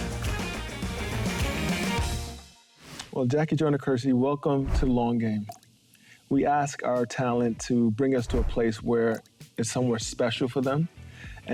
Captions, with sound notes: (air whooshing) Well, Jackie Joyner-Kersee, welcome to "Long Game." (waterdrop plinks) We ask our talent to bring us to a place where it's somewhere special for them,